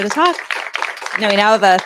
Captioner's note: applause